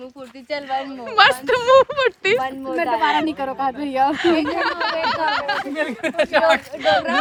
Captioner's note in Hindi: हंसी